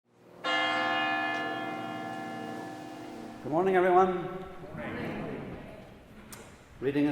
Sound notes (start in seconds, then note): 0.4 church bell ringing; 4.5 audience murmurs